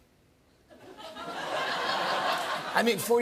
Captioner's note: laughter